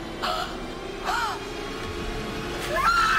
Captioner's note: Martha gasping